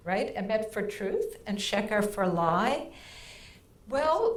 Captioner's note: speaking in foreign language